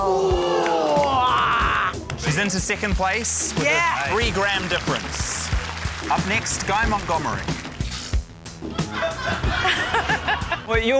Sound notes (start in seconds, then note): 0.1 audience exclaims; 1.8 grunts; 8.5 scoffs; 8.7 laughter